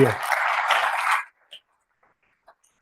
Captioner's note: applause